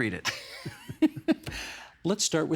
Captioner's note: both chuckling